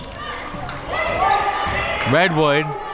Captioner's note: crowd members shouting